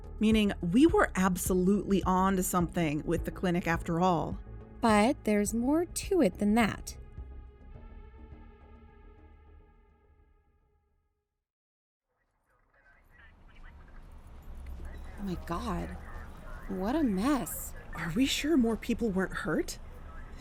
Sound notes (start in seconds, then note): 7.1 ambience fades in: city, police chatter; 7.1 music fades out